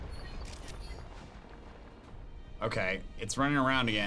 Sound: photo snapping

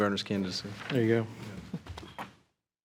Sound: trustees chuckling

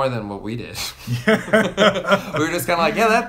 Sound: laughing

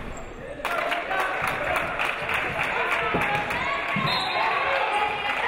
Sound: audience applauding

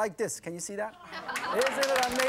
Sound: audience clapping

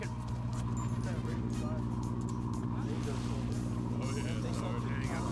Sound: indistinct chatter

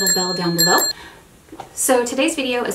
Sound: bell ringing

